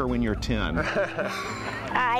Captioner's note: laughing